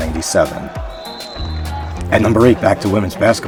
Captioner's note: whistle tweets